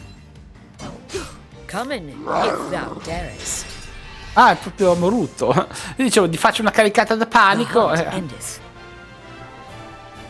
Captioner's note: gasp